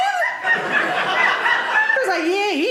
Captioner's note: audience laughing